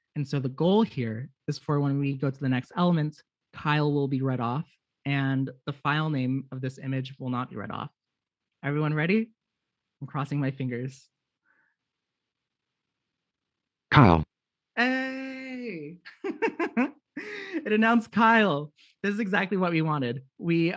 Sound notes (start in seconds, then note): 14.0 computer Generated Voice; 16.0 laughs